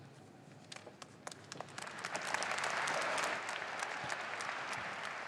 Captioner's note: audience applauding